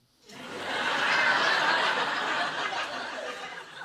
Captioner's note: audience laughs